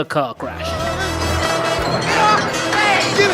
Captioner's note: people booing for bad science